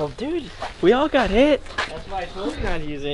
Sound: laughing

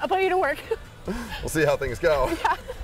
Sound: laughing

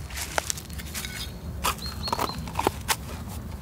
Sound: birds chirping

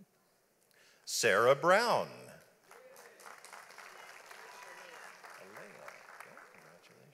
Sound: audience applauds

